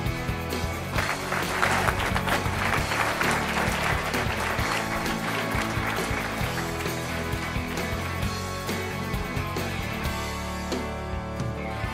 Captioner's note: applause & Background Music